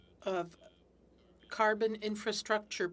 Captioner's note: speaking French